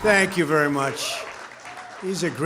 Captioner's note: applause